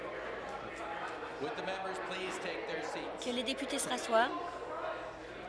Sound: conversation din

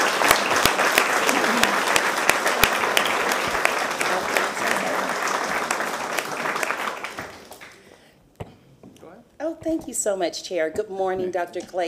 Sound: applause

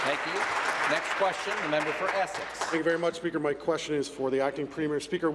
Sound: applause

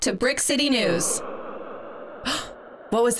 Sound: scary sound effect

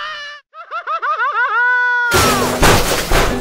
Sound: crash

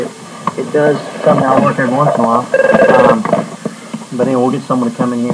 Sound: phone ringing

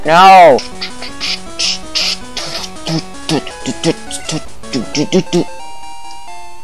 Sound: making noises to the music

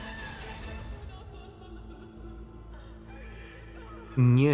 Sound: sobbing

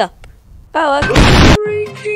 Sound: really loud boom!!

